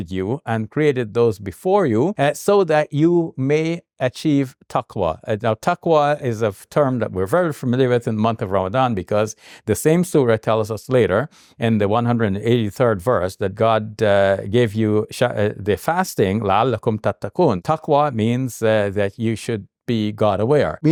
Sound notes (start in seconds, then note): 15.4 speaks in Arabic